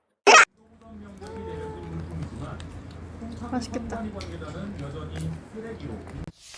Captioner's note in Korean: 츄릅